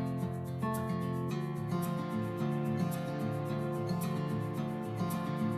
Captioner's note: none